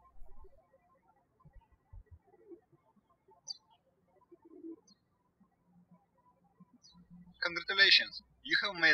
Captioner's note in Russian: птички щебечут